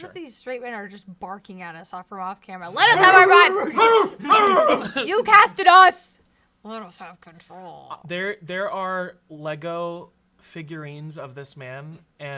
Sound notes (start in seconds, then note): 2.8 barking